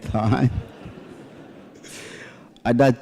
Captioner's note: laughter